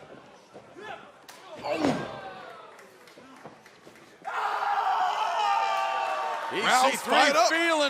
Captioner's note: crowd chatter